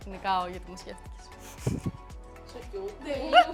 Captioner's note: laughs